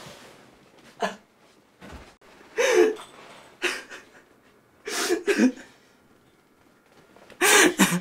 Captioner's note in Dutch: huilend